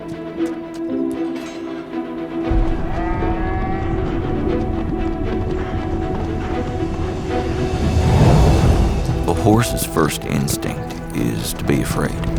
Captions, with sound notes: (latch clanks) (calf lows) (calves galloping) A horse's first instinct is to be afraid.